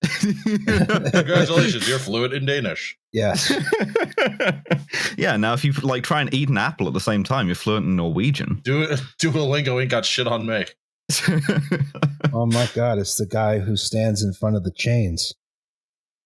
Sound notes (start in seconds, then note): 0.0 laughs; 3.3 laughs; 11.1 laughs